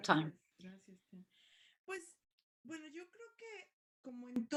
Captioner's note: speaking spanish